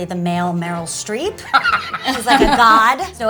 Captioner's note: Matthew laughs